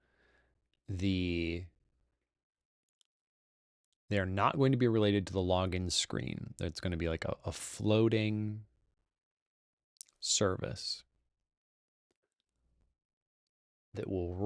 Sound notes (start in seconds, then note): none